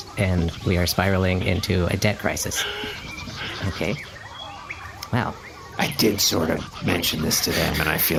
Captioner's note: whispering aside